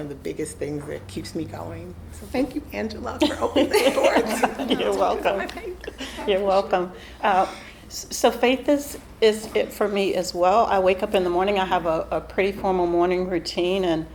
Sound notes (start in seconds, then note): 3.2 all laughing